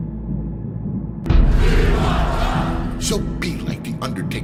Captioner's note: chanting